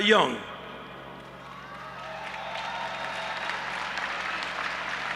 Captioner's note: audience applauding